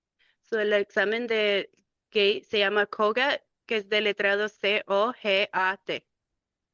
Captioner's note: speaking in Spanish